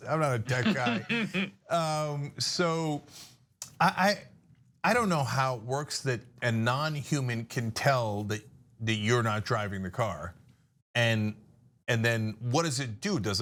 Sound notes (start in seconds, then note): 0.1 laugh